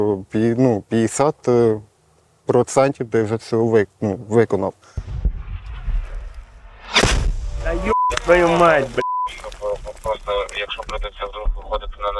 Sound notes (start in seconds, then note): 6.8 explosion sound